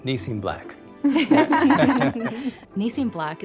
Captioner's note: all laughing